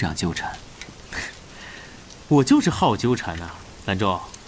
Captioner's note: laughs